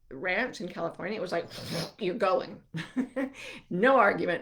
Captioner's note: chuckling